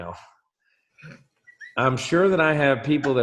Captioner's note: laughs